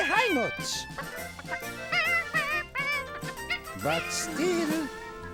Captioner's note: chicken clucking